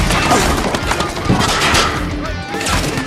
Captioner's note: guards continue shouting